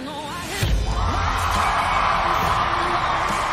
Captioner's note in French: applause